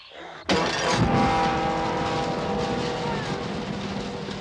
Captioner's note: whimpering